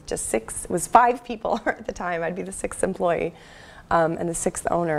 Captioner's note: laugh